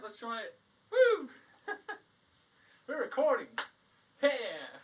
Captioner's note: claps